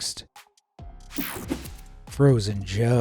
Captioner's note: screen whooshing